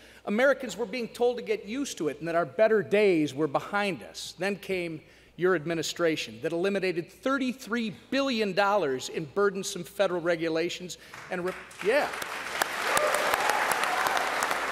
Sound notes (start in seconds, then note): 11.1 applause